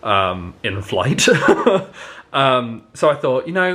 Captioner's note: laughing